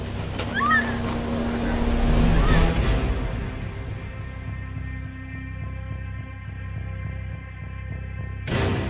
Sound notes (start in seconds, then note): 0.4 screaming; 5.8 dramatic music